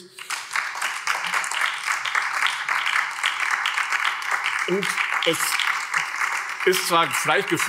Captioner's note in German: Beifall BÜNDNIS 90/DIE GRÜNEN und vereinzelt Freie Demokraten